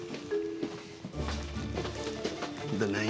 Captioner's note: footsteps